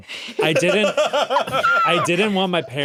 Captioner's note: laughs; squeals